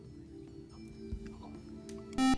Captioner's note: buzzer